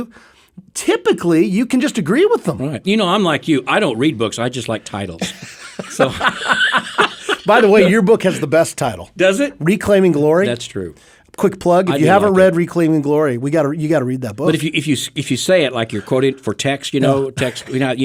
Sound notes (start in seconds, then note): 5.1 laughing